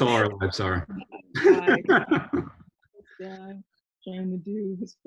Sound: laughs

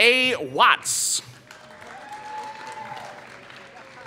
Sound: applause

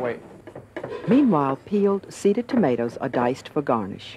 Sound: voiceover

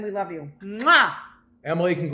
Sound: kisses

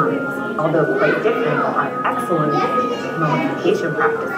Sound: indistinct, chattering children

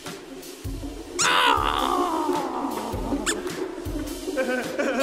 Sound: whimper; evil laughter

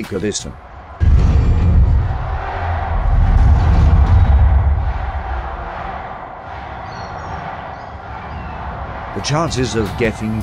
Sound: the masses cheering

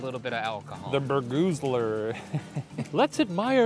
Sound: laughs

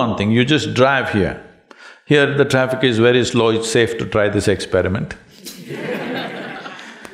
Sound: laughter

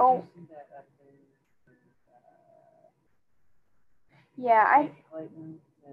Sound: student speaking faintly

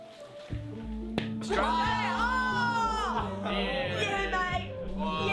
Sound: all yell; drunken singing and incoherent noises

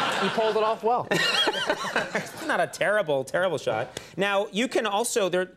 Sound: laughs

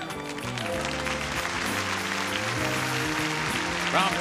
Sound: audience cheering

